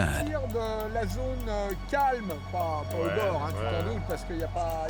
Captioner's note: man speaking French